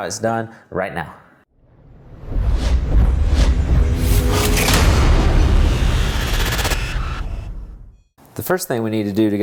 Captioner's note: sound effect